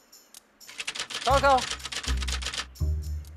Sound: typewriter clanks

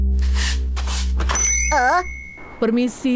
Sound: bell rings

